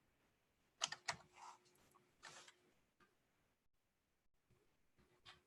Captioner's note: keyboard tapping